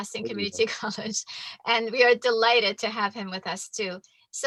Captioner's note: chuckles